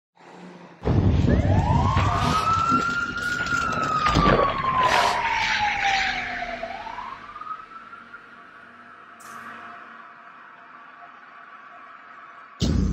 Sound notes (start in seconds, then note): 0.8 explosion, siren and sound of water splashing